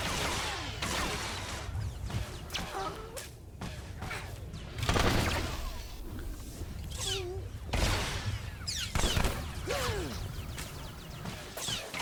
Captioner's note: gun firing